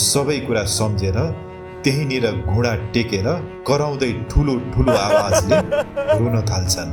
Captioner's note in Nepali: हास्य